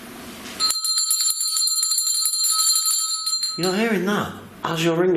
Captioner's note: bell rings